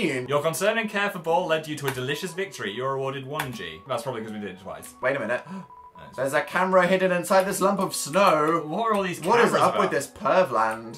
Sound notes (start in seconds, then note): 5.4 gasps